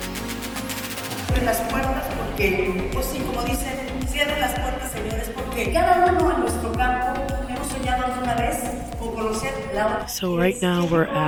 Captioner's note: speaker speaking Spanish